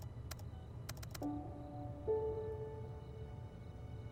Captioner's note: keyboard clicking